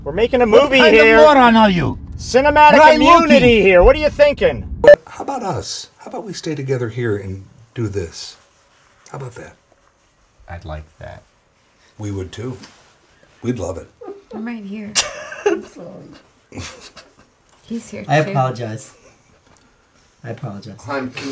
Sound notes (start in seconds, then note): 12.8 starts laughing; 15.0 more laughter; 16.5 starts laughing